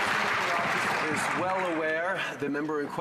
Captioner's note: some Applause